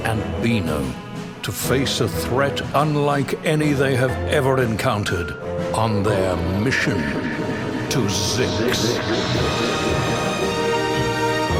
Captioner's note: echoing